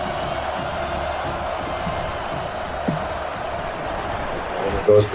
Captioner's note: crowd Noises